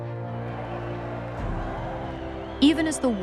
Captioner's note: crowd yelling